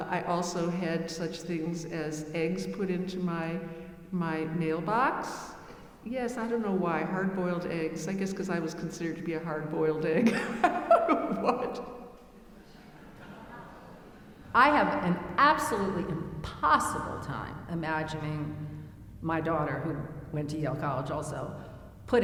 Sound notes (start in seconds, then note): 10.2 laughing; 12.4 audience chuckling